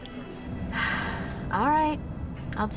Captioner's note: sigh